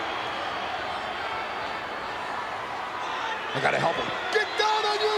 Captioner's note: applause